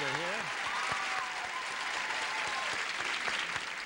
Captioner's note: audience cheers